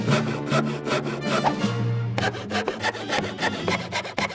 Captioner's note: sawing faster